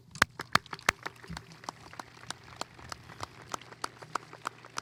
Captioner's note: audience applauding